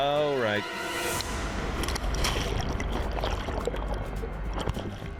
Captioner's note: intense music; water bubbling